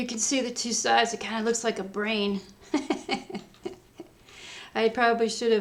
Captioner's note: laughs